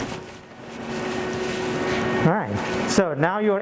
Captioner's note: machinery hums